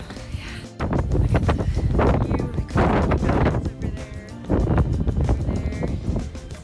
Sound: wind sounds

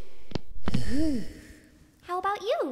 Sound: dozer sighs

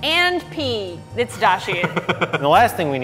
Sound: laughs

